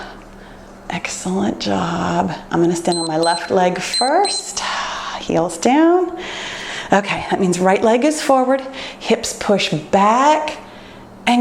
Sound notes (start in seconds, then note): 2.9 timer beeps